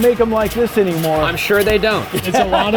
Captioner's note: laughing